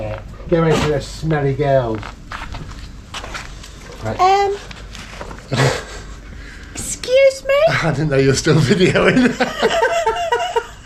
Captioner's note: laughter